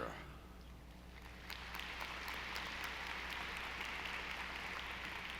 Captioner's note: audience applauding